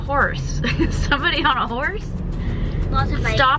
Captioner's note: chuckles